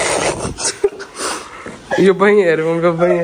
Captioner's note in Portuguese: risos